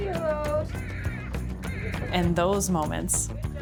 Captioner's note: baby crying; upbeat music